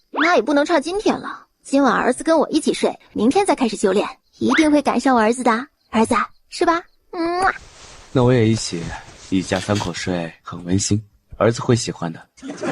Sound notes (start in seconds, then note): 7.2 kiss